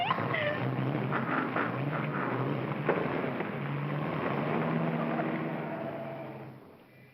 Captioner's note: engine starts; gears grind & car rumbles